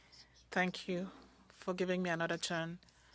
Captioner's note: speaking French